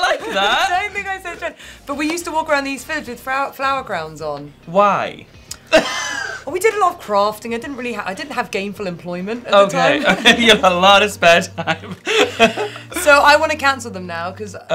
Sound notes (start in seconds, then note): 5.5 Tan laughing; 11.5 both laughing